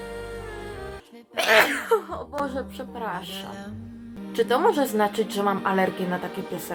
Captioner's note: sneezing sound